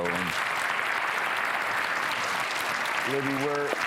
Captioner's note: audience applauding